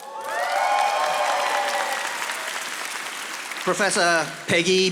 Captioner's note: audience applauding